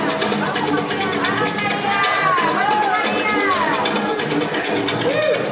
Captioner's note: speaking in foreign language